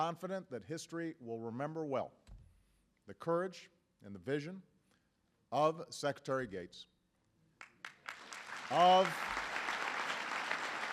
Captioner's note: applause